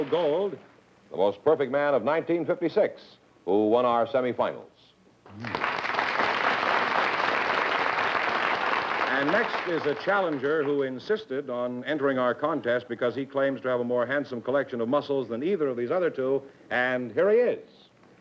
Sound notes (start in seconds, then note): 5.3 applause